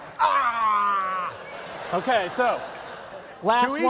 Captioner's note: again, dying goat